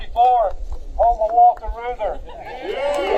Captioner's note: applause